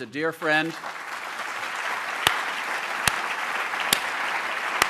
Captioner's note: applause